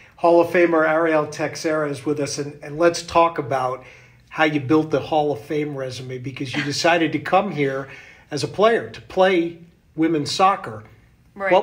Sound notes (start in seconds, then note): 6.5 chuckles